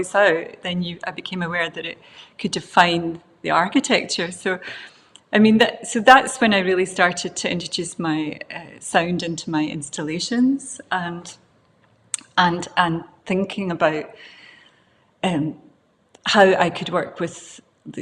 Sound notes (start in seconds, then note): none